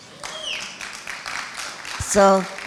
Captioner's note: applauding